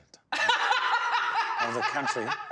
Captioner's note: laughing loudly